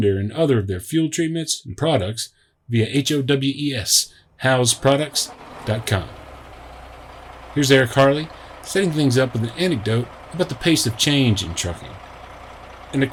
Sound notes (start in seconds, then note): 5.9 truck engine firing up